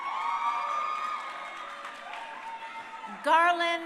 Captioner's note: crowd cheering